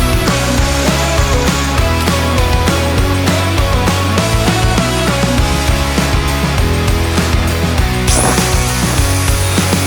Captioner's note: folding